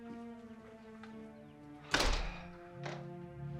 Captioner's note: gunshot